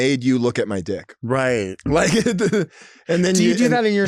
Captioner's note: laughing